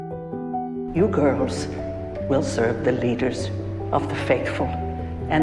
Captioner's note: voiceover